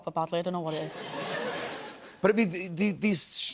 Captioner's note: laughter